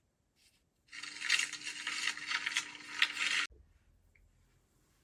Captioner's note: paper rustles